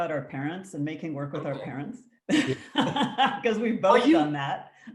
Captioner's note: laughs